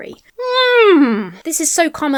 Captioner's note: whinnies